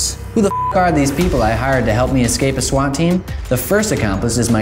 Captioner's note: beep